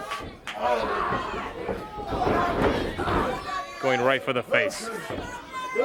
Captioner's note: crowd chatter